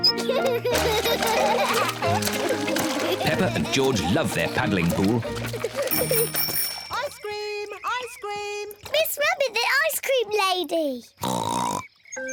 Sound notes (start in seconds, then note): 0.0 both giggle; 5.8 bell tinkles; 11.2 oinks excitedly